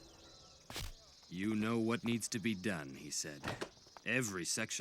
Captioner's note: over comms